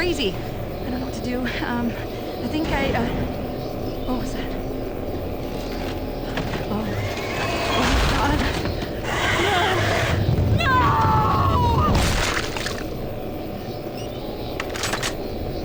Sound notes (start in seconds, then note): 11.9 splat